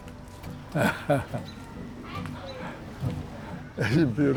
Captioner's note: laughs